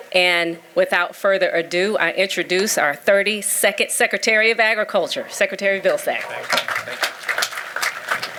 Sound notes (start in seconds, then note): 5.8 applause